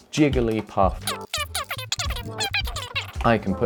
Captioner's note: fast forward noises